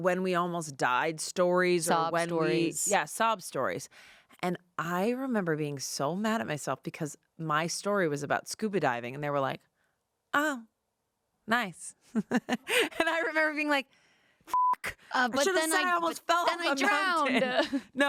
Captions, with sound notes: when we almost died stories or when we- - Sob stories. - Yeah, sob stories. And I remember being so mad at myself because my story was about scuba diving. And they were like, oh, nice. And I remember being like, (beep), I should have said I almost feel and then drowned.